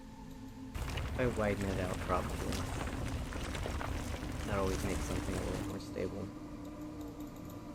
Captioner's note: gravel sounds